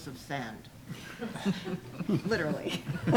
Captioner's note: audience chuckling